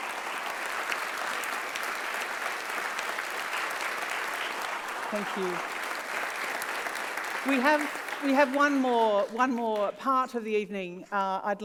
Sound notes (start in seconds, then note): 0.1 applauds